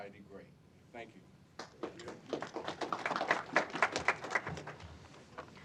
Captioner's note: applause